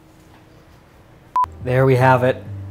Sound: beep

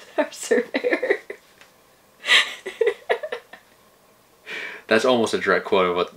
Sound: laughs

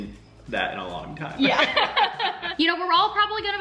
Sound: laughing

